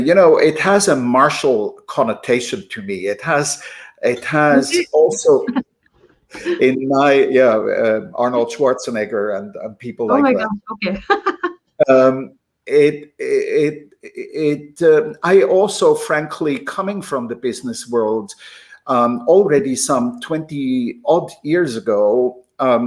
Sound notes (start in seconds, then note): 6.4 laughs; 11.0 laughter